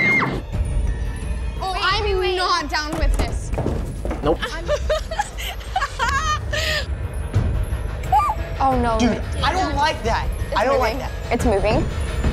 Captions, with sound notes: - Oh, I'm not down with this! - Wait, wait, wait! Nope. [laughing] - Oh, no! - Dude, I don't like that! - I don't like that. - It's moving, it's moving.